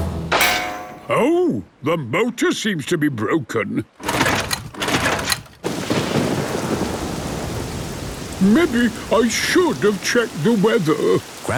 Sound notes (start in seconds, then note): 4.0 engine struggling